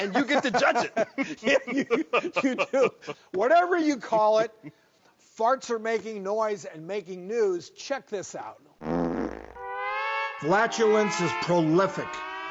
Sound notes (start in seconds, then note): 0.0 laughs; 8.8 fart noise